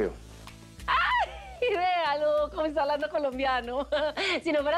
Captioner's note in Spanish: Riendo